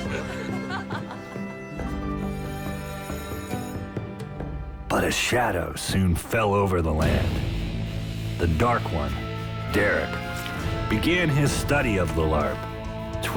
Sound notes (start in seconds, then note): 0.0 joyful Laughter; 2.7 school Bell Ringing